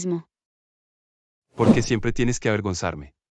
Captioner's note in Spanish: FX - Whoosh - 03